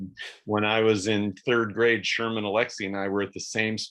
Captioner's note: laughs